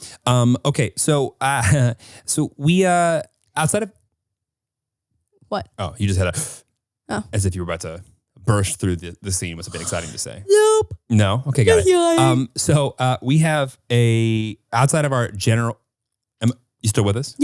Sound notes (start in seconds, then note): 7.0 inhales; 9.6 yawns